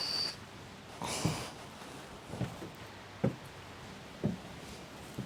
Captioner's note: Cammy softly sighing